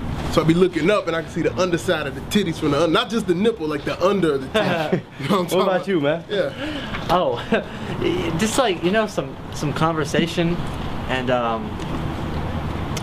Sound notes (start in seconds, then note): 6.2 laughing